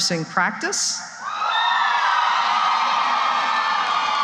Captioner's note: cheering